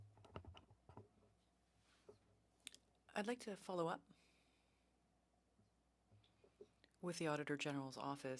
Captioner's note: speaking French